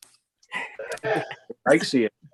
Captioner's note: laughing